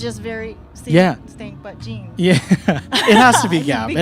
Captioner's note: laughs